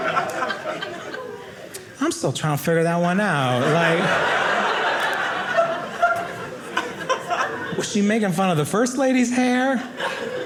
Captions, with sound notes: I'm still trying to figure that one out, like-- (audience laughing) Is she making fun of the first lady's hair?